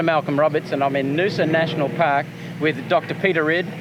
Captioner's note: plane engine roars